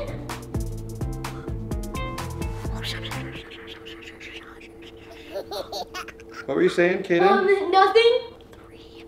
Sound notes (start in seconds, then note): 3.0 boy whispering